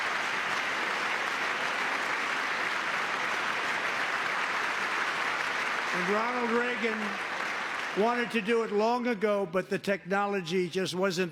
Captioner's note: applause